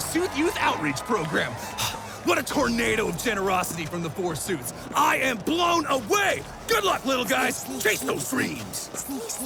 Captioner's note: crowd cheers; sneaking in their cloaks, whispering